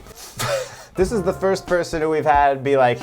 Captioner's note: chuckles